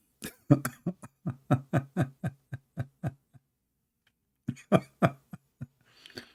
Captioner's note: Ketawa